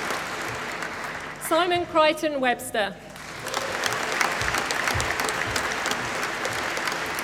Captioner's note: applause